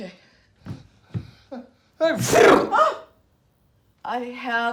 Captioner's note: sneezing loudly